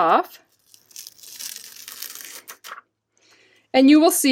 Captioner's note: ripping sound of it coming off the stamp